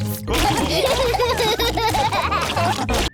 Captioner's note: laughter